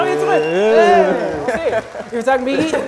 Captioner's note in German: Applaus